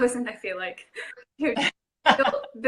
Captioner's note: laughing